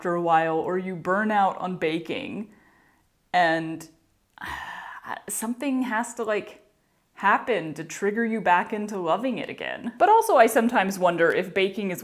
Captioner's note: sigh